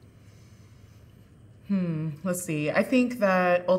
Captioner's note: humming